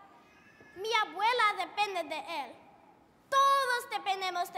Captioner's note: foreign language